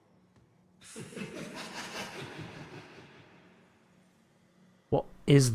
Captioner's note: laughs